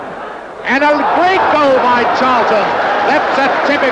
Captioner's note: crowd roaring